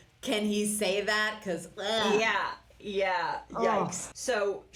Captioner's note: blurgh